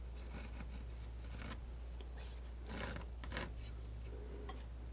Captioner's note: scratching